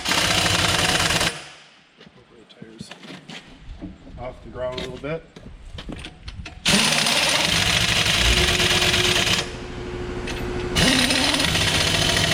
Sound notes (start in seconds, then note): 0.0 impact wrench whirring; 6.6 impact wrench whirring; 8.7 air compressor whirring